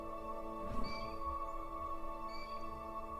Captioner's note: Blue Jay calling